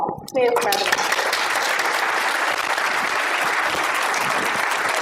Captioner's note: clapping